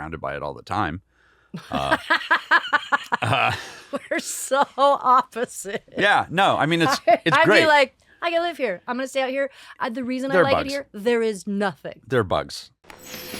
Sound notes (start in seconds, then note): 1.6 laughing